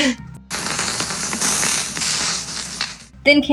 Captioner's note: both Chuckle; electricity Crackling